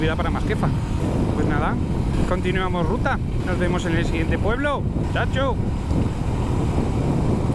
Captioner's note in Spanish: con voz de pueblerino